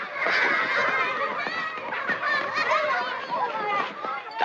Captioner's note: happy Children's Voices